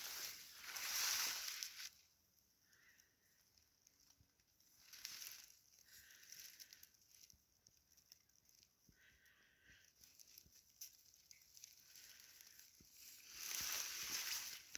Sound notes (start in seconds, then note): none